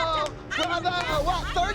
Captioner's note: shouting